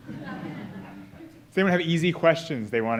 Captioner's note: audience laughing